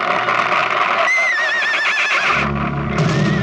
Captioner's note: horse neighing